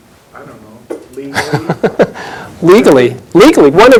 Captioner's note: chuckles